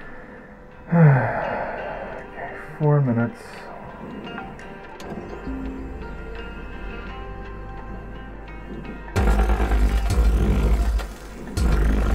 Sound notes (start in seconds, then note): 0.8 sigh